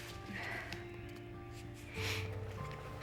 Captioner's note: sighing